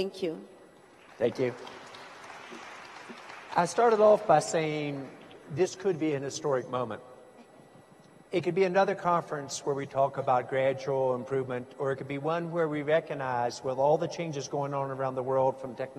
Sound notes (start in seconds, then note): 0.9 applause